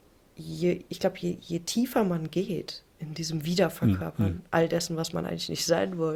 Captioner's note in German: räuspern